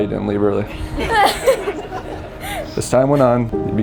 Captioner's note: and spectators laughing